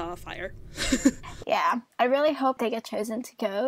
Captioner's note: laughs